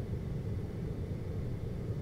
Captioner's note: air conditioning